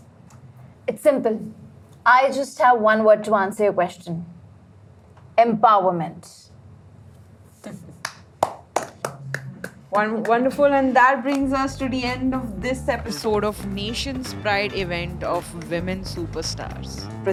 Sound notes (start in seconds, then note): 8.3 applause